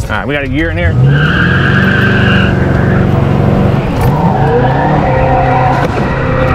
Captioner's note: car revs; tires squeal